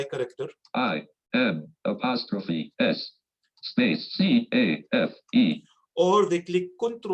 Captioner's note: automated Voice